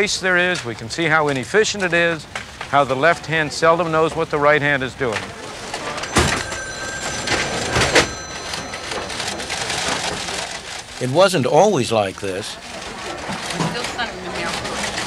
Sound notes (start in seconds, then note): 4.7 office sounds; 12.0 more office sounds